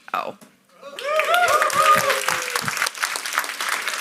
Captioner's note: audience cheers and applauds